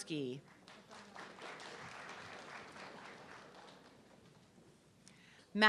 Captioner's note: audience clapping